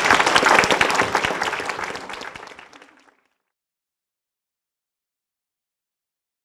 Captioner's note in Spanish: Aplausos